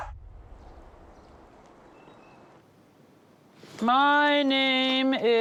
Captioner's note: birds chirping